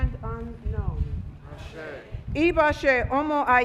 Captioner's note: speaking Foreign Language